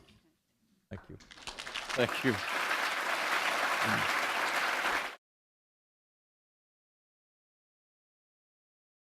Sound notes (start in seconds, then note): 1.3 applause